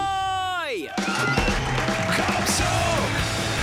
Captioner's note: cheering